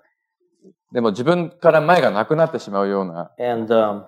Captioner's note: speaking japanese